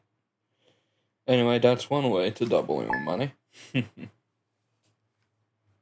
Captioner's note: chuckle